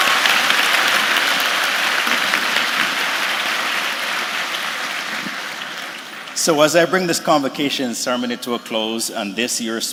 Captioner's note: applause